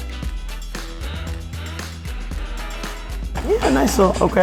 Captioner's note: humming